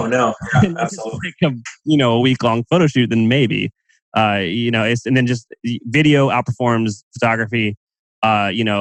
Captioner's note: laughs